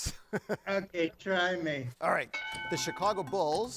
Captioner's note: chuckles; bell dings